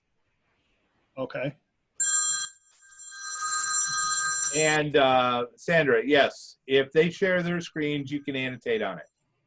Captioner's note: phone rings